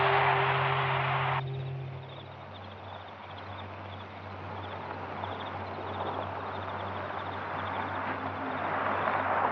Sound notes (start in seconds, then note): 1.3 crickets chirping